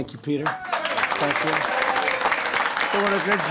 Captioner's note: applause